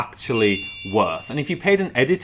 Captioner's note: bells dinging